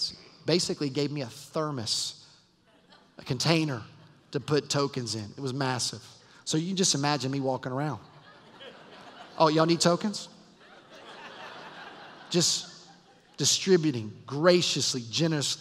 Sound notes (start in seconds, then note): 8.0 laughter